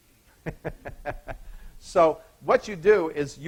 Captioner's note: laughing